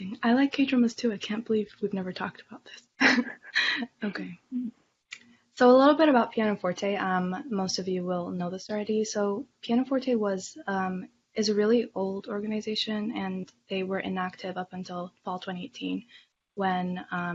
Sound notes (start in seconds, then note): 3.0 laughter in background; 5.1 clicks tongue